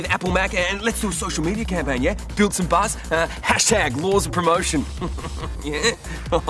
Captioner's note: chuckles